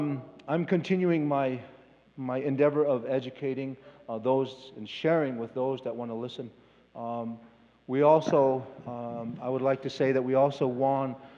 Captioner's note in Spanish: Expositor habla en inglés